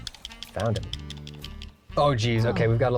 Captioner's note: pat